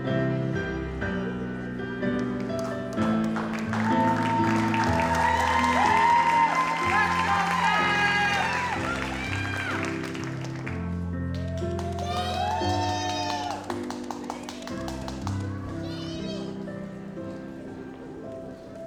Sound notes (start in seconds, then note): 3.9 audience applauds; 10.1 gentle music; 13.0 audience applauds; 15.9 gentle music